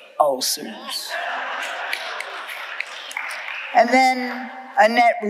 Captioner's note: audience laughing